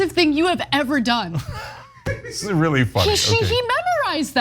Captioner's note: laugh